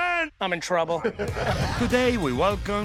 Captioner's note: laughing